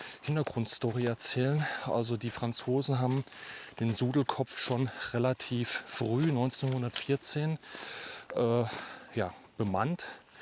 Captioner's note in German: japst; seufzt